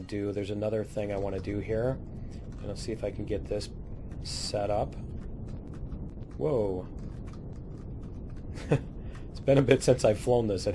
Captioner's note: laughs